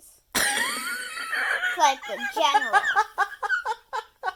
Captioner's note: laughs